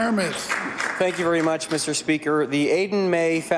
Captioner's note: applause